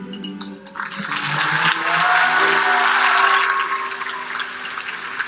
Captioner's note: audience applauds